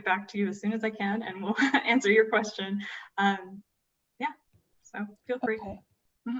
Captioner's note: laughter